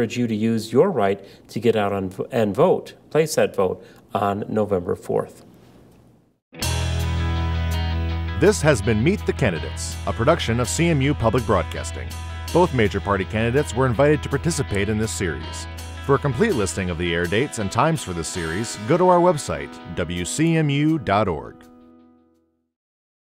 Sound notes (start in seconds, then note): 8.4 voiceover